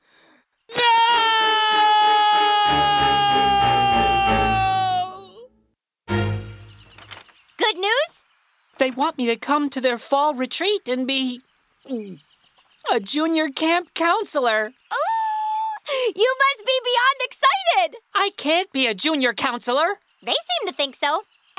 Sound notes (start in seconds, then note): 11.8 gulp